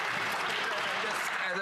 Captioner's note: some Applause